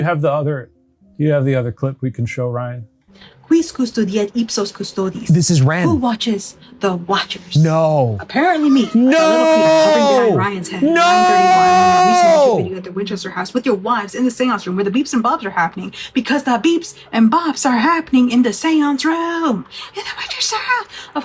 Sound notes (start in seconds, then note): 3.5 speaking in foreign language